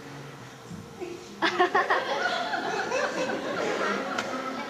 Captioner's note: soft laughter